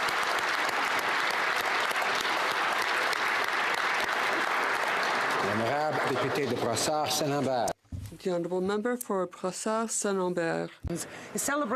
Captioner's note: applause